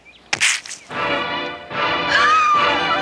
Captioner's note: splat; dramatic music; scream